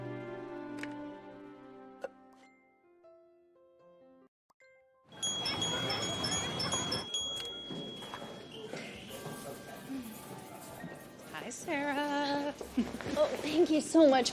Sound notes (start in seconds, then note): 5.1 ringing bell